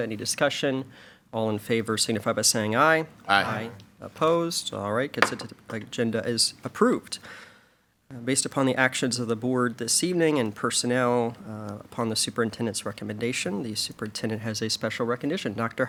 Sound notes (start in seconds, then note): 5.2 gavel pounds